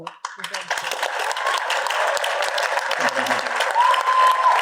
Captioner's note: audience applauding